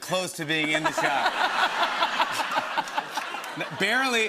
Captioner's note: laughter